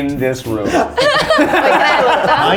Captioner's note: all laughing